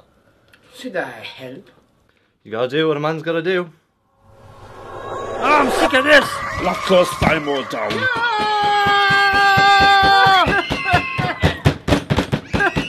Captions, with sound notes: Should I help? You gotta do what a man's gotta do. I'm sick of this! We'll have to close SYMO down! NoOoOoOoO! (SOBBING)